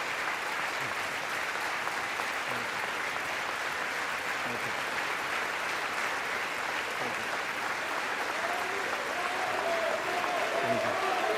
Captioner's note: applause